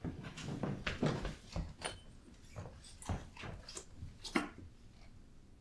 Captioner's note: footsteps distance